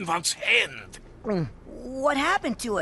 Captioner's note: gulps